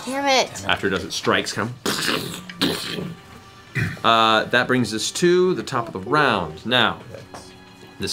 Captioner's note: stomps